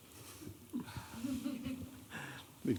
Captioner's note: chuckling